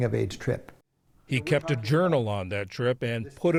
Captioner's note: voice-over